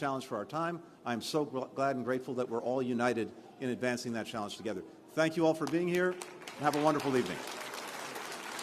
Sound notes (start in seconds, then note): 5.6 applause